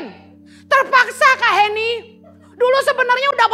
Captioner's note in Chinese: 会众的笑声